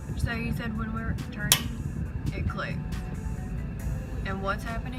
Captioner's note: click